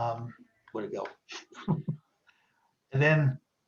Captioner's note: chuckles